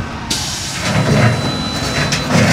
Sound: engine revving

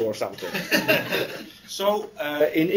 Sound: laughter

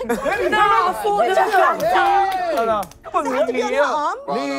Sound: contestants cheering

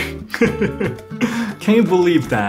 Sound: laughs

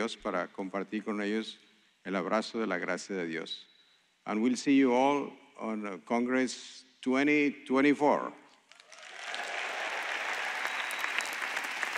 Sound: speaking spanish

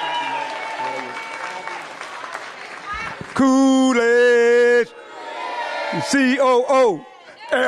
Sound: applause

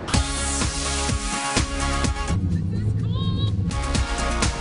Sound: yelling

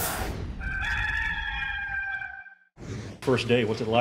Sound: rooster crows

